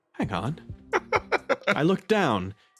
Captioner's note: laugh